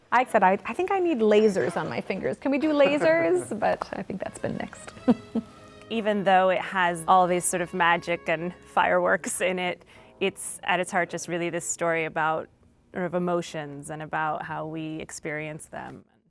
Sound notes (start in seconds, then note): 2.8 laughs; 4.9 chuckles